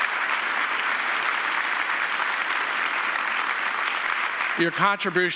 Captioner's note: audience applauding